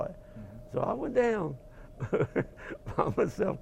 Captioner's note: laugh